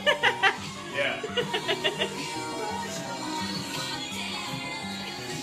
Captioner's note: laughing